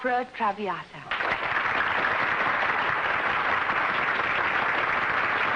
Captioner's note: applause